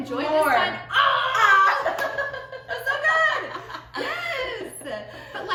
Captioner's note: laughter